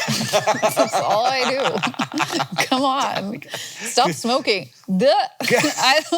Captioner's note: Hank laughing